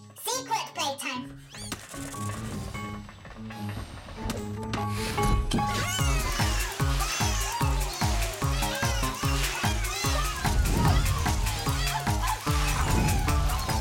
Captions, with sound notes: Secret playtime. Woo-hoo! [Bongolalas cheering]